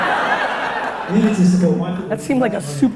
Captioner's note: audience laughter